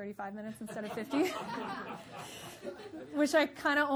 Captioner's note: audience laughing